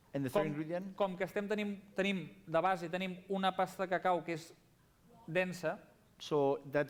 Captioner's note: non-english speech